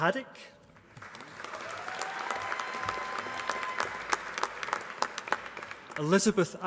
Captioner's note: applause